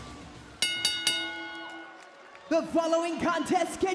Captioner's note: bell rings